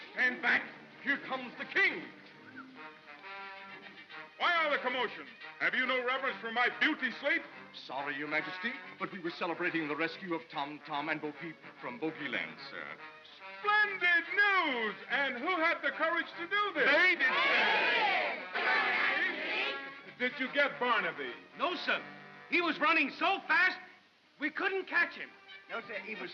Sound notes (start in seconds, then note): 17.1 mob clamors